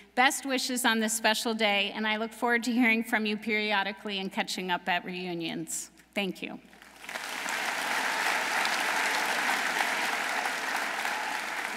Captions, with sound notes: best wishes on this special day and I look forward to hearing from you periodically and catching up at reunions. Thank you. (audience applauding)